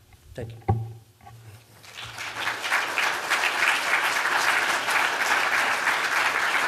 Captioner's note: applause